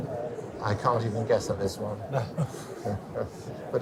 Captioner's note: laughs